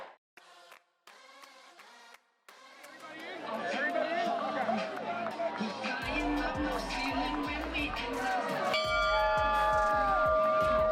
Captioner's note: players Ringing Bell